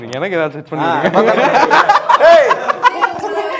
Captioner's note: laughing in background